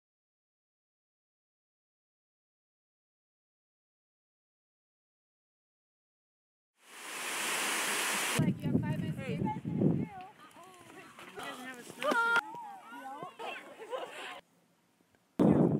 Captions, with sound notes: [running water] [running water] -you have five minutes- -hey- [sled sliding sound] -ah!- [children voices] [laughter] [wind]